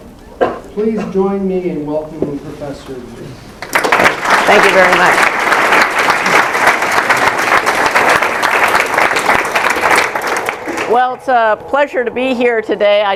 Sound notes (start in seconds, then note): 6.0 applause